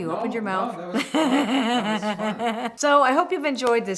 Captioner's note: laughs